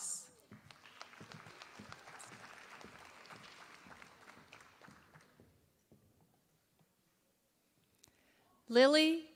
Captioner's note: applause